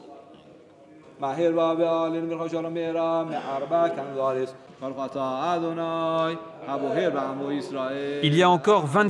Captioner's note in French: Arabic spoken language